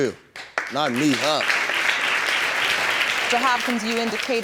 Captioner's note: audience claps